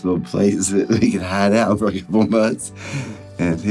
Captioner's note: laughing